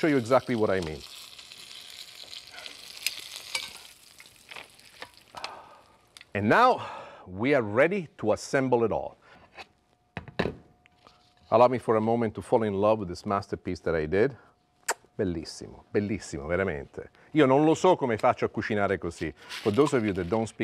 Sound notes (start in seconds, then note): 14.8 smooches; 17.1 speaking Italian